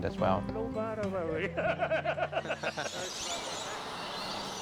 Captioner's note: a shared joke and laughter; birds twittering